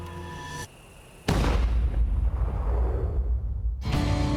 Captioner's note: gun fires